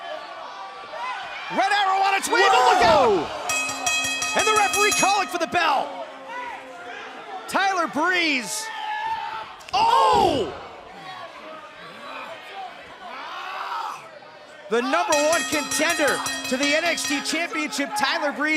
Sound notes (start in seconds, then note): 4.9 bell ringing